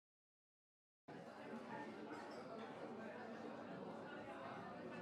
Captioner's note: restaurant bustling